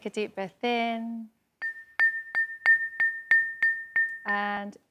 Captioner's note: dings